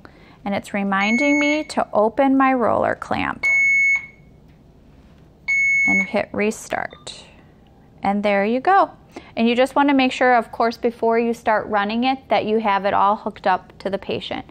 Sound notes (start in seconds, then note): 3.3 beeping